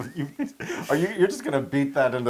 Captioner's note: laugh